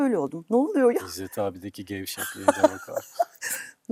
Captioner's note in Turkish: kahkaha